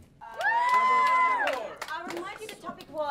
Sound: students cheer and clap; students complaining

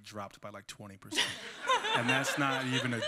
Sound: laughter

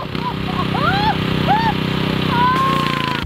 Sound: laughter

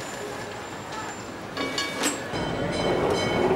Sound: bell rings

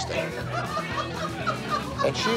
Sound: laughing

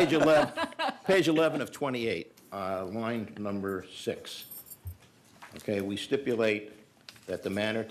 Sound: laughter

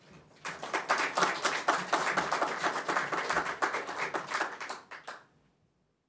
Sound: applause

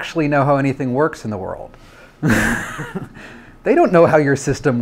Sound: laughs

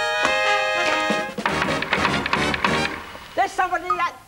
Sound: knock on the door

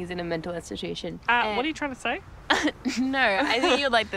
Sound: laughing

